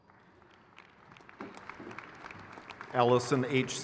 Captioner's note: crowd cheers